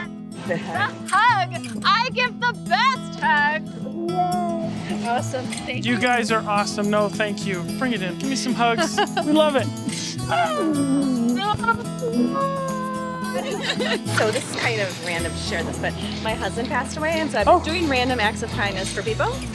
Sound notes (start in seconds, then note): 9.9 grunting; 10.4 laughing